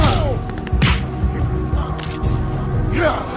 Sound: men grunting

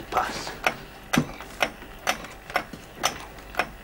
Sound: ticking and whirring

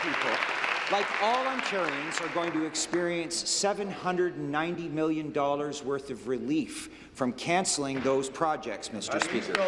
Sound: applause

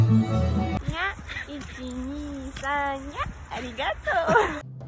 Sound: rabbit sound

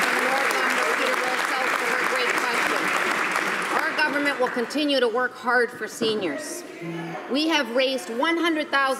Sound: some applause

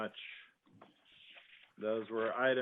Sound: moment of silence

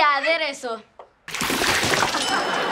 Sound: splashing

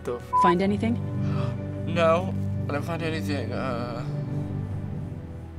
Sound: Lee gasps

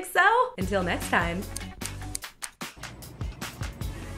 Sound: snipping with fingers

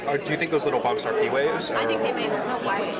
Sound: class chatter

